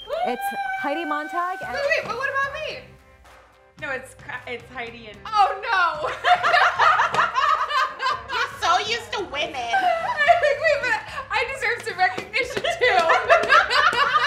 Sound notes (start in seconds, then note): 6.2 laughing; 12.6 laughing